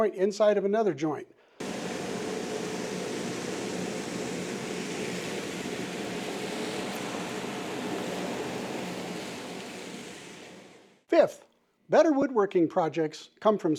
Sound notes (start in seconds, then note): 1.6 sounds of vacuum